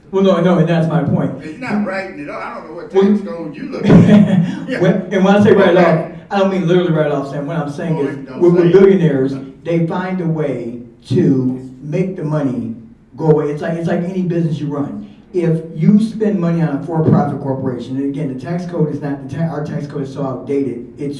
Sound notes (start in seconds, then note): 3.7 both laughing